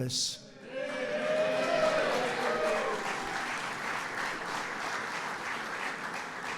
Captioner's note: applause